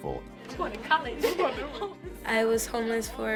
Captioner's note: kids laughing